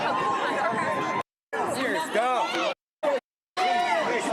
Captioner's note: crowd yelling